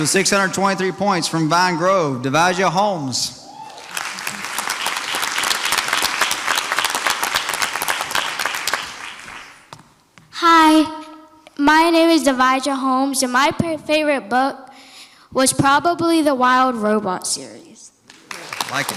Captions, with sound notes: In fourth place with 623 points from Vine Grove. Divija Holmes. (audience applauds) - Hi, my name is Divija Holmes and my favorite book was probably "The Wild Robot" series.